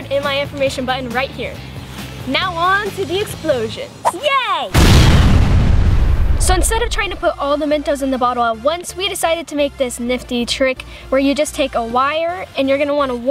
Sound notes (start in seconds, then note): 4.7 explosion